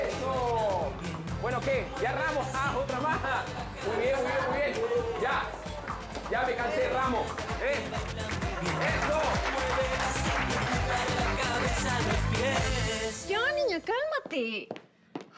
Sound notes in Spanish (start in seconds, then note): 7.4 aplausos